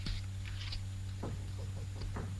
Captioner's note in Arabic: طرق الباب